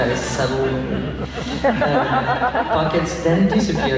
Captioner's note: laughs